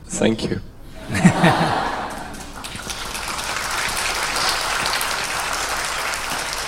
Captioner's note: audience Laughter/Applause